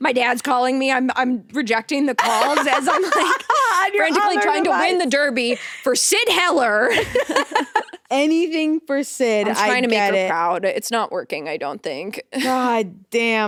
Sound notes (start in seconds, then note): 6.9 both laughing